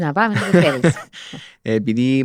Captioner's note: he laughs